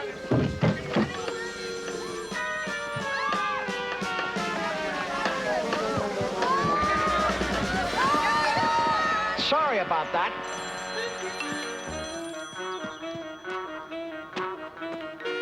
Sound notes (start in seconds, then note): 0.0 groans; 0.2 thuds; 1.7 phone rings; 1.7 yells; 3.6 playful dramatic music; 3.6 yelling; 11.1 phone rings; 11.1 playful dramatic music